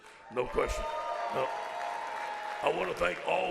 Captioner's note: audience applauds